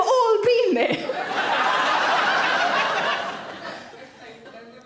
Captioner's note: audience laughs